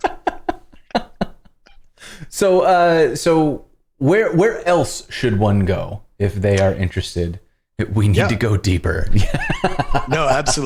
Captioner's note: laughter